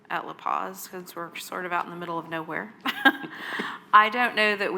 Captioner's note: laughs